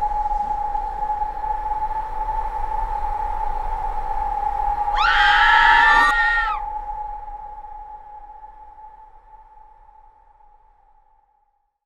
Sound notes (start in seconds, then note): 4.9 scream